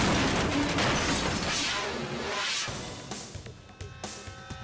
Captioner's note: dramatic air whoosh; edgy dramatic music